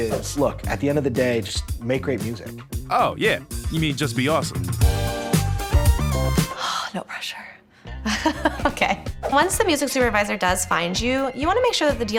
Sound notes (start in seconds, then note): 4.6 upbeat music returns; 8.0 chuckles